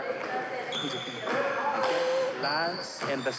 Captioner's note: weeps